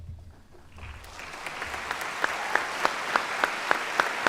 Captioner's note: applause